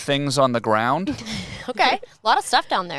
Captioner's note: laughs